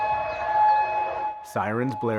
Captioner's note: sirens blaring